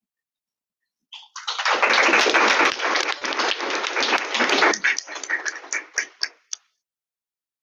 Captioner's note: audience clapping